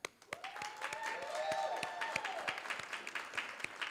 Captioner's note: cheers, applause